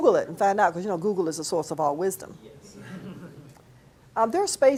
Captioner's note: class laughs